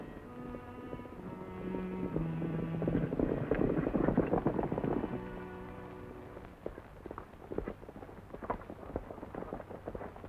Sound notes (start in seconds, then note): 0.7 horse hooves clomping